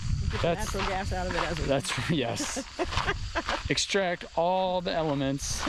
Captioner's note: laughs